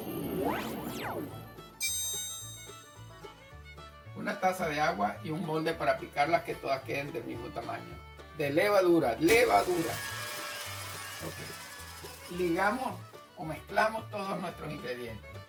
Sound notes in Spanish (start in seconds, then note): 0.0 sonido de lasser, efecto de luz y sonido sobre el envase del ingrediente; 9.2 efecto confeti